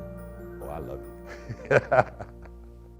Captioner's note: laughs